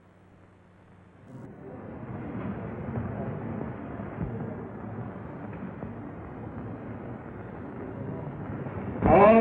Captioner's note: audience noise